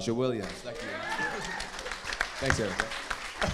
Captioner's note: audience laughing